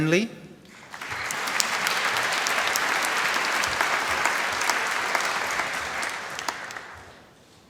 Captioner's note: applause